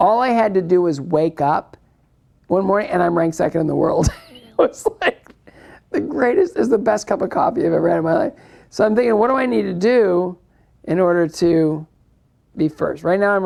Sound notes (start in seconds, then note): 4.0 laughs